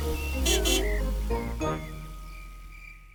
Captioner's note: horn honks